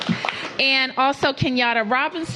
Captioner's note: applause